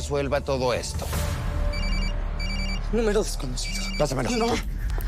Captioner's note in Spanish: Suena el celular